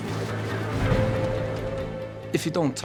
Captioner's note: water whooshing; boat droning